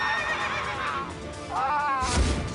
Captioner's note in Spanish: Gritos; Relinchos; Gritos